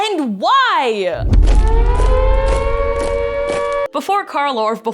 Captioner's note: alarm ringing